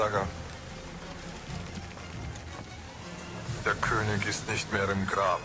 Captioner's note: galley creaking